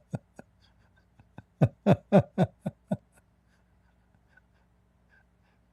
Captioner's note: Ketawa